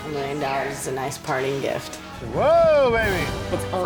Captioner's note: daters exclaiming